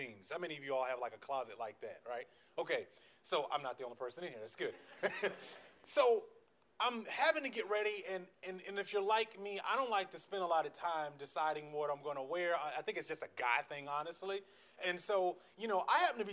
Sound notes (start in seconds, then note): 4.8 laughs